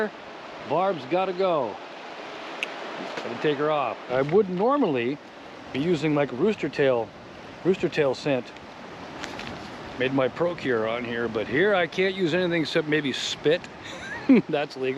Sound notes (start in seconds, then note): 4.0 water flowing; 13.8 chuckling